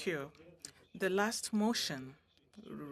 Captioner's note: speaking French